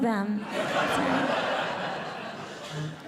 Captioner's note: audience Laughing